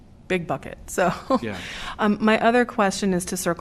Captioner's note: laughter